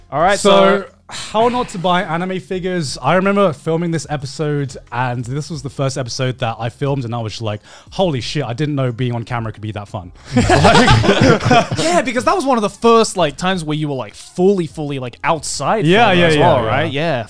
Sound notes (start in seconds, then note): 12.3 laughing